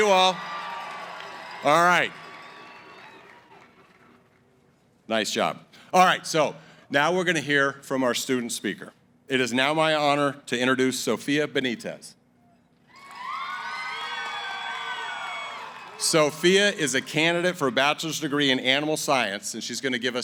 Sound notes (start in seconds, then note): 12.9 cheering